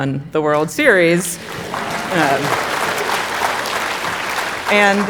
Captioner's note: audience applauding